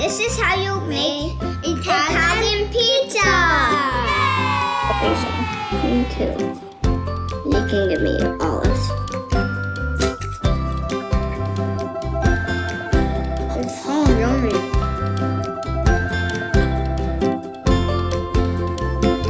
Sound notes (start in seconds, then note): 3.7 children cheering; 9.3 playful music